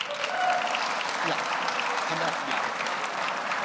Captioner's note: audience applauds